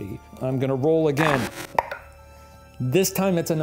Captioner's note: dice clinking